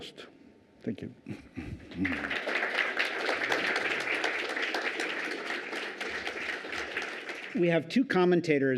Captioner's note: applause